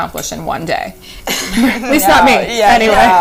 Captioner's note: laughing